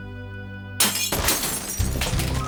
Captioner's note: glass smashes